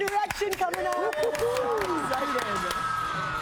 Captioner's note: laughing